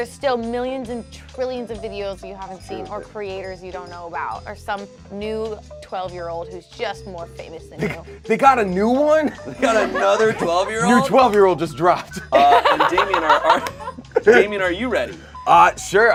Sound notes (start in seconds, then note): 12.6 snaps; 14.7 laughs